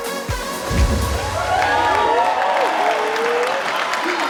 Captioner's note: audience cheers